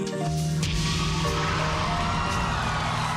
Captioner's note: cheers and applause